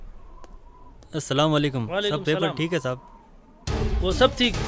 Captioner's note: Speaking in Arabic